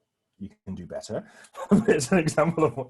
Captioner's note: laughs